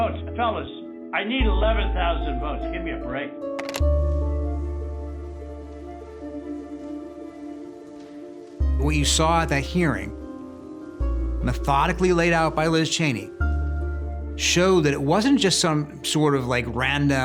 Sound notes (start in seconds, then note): 3.6 telephone hangs up